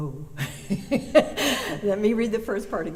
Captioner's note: laughter